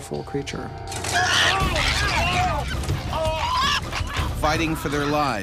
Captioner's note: chimp shrieking; voiceover